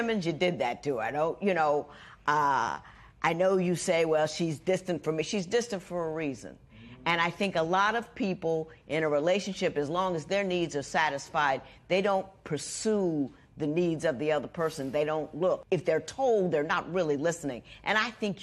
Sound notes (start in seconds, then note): none